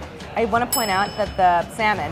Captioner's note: bell dinging